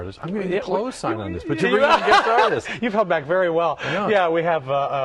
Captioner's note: laughter